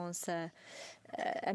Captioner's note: speaking in French